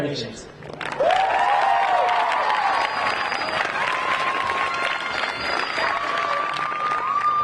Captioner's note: crowd applauding; crowd cheering